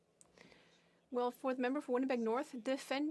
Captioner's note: speaking French